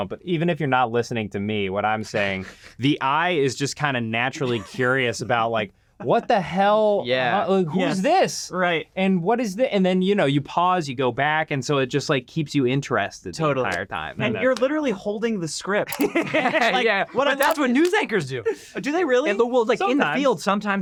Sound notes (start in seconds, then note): 15.9 group laughing